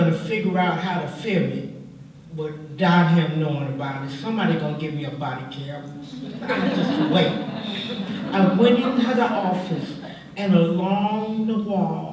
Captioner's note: laughter